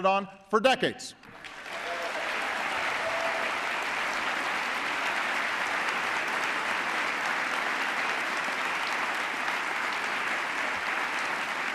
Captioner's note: applause